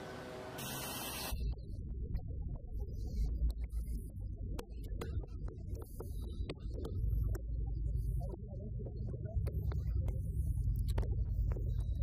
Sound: electronic sounds

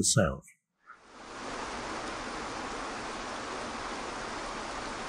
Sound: waterfall splashing

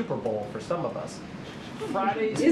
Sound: laughter

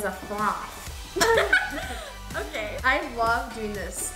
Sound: laughs

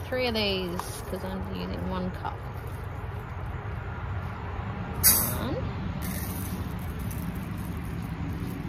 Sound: rice tips and pours noisily

